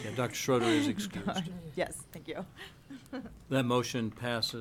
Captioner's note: laughs